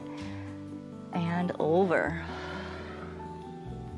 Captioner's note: exhales